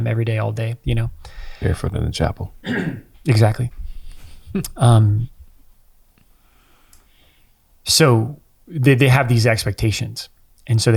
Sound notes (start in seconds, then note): 2.6 clears throat; 4.4 chuckles